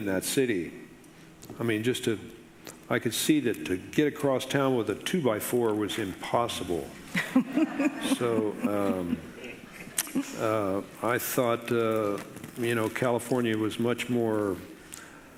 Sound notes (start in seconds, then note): 7.1 laughing